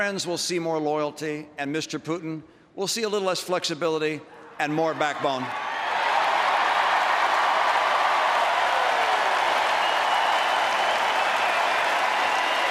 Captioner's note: applause